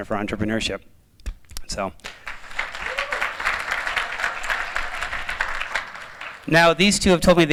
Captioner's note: applause